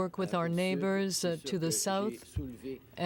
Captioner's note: speaking French